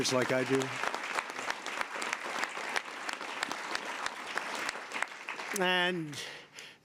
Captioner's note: applause